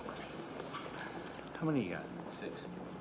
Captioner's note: cards scratching